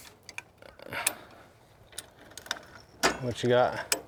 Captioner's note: chain ratcheting